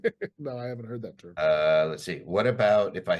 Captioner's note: laughs